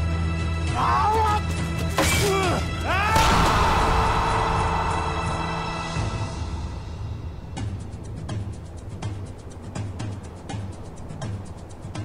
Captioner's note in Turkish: Savaş Sesi